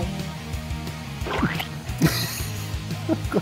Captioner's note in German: Pflatsch